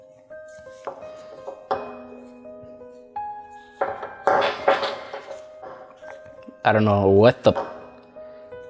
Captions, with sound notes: (skull clatters) I don't know what the,